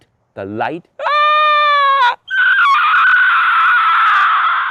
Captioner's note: screeching